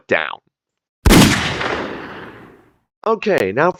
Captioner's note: gunshot